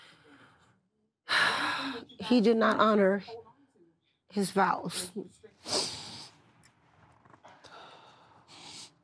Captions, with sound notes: (sighs) he did not honor his vows.